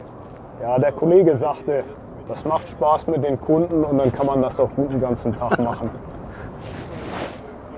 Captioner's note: laugh